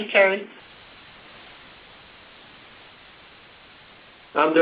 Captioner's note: silence